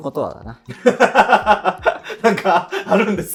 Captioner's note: laughing